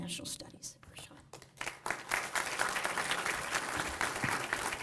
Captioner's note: applause